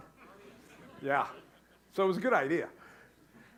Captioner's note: audience laughs